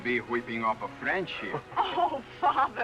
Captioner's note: laughter